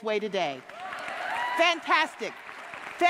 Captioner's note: audience cheering